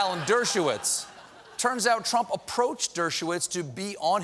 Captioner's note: laughter